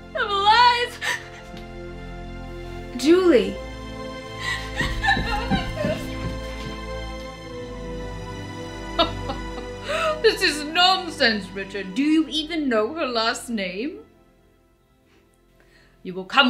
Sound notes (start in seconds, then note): 4.4 Julie hysterically crying; 6.5 dramatic music; 9.0 King laughs